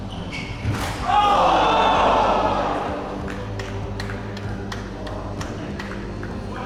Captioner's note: crowd